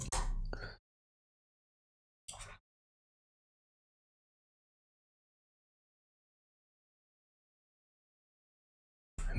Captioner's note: silence